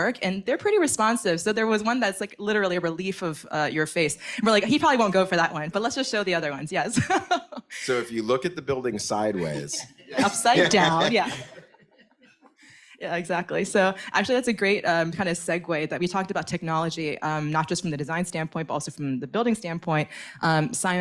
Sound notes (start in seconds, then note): 6.9 laughs; 10.0 audience laughs